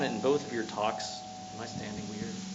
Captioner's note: microphone feedback